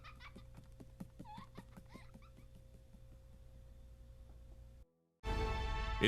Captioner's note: giggling